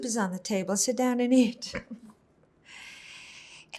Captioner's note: laughing